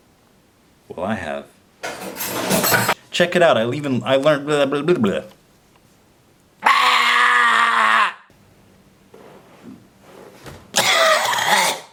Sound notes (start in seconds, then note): 1.9 breaking Noise; 6.6 screeches; 10.7 coughs